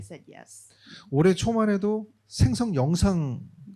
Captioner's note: speaking korean